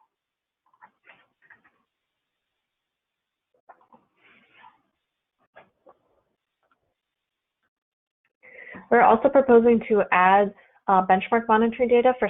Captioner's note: silence